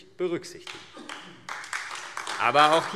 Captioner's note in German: Beifall AfD